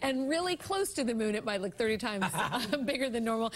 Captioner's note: laughter